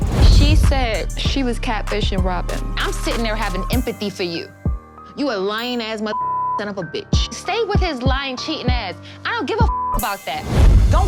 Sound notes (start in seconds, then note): 6.2 beep; 9.7 beep